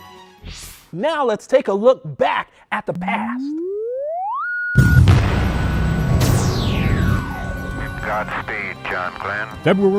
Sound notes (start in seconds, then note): 3.3 sound Effects